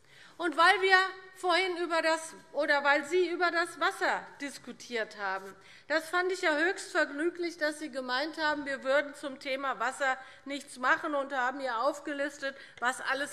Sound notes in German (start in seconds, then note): none